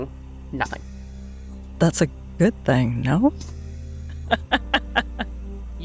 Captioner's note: chuckles